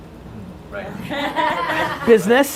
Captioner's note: laughing